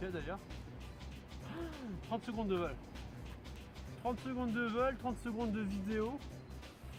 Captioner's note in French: soupir